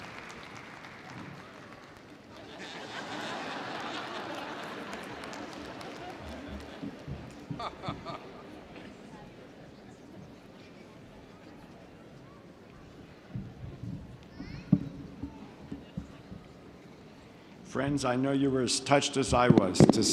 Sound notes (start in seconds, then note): 2.3 audience laughs